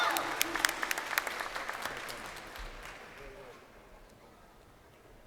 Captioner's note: crowd cheering